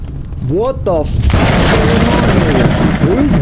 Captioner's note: thunder